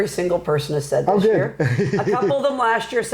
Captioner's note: laughing